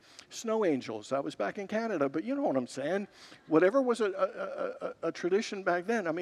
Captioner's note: congregants laugh